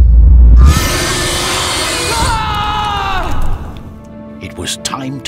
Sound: Selius screaming; creature roaring

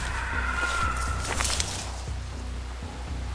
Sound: distant cry

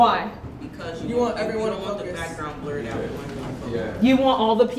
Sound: murmurs

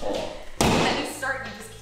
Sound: sledgehammer bangs

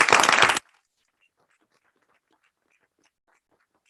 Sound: applauding

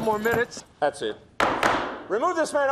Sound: banging of gavel

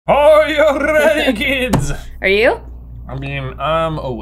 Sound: wobbly accented voice

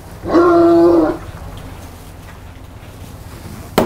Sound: dog barking

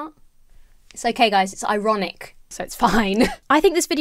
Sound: chuckles

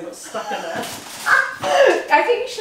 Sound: laughs

